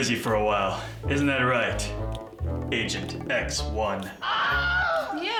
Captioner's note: man screams